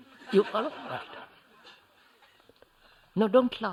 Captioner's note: laughter